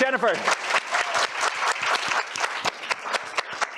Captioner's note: applause